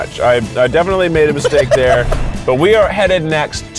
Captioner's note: laughs